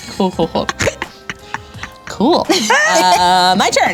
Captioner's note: laughing